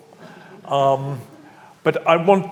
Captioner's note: audience laughs